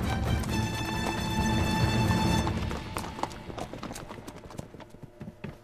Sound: horse galloping

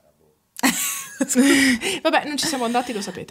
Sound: laughing

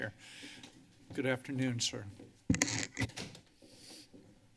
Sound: microphone squeaks

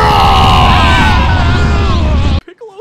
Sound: CONTESTANTS scream

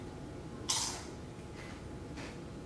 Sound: crunching

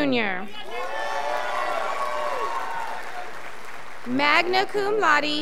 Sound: scholars applauding

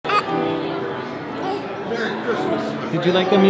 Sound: baby babbling

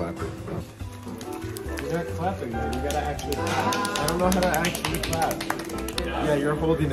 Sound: clapping

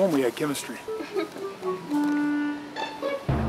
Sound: cashier giggles

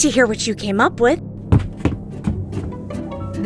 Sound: footsteps down stairs

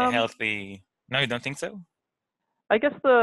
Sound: hums questioningly

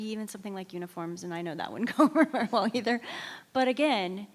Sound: laughs

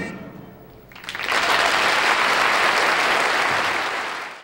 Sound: audience applauding

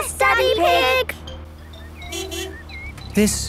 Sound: honking

